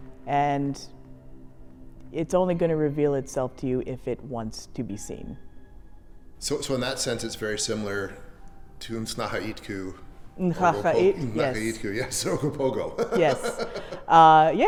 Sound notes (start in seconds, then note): 0.0 eerie music; 10.5 chuckles